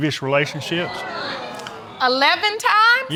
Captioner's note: audience exclaiming